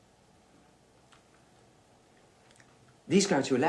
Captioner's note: pause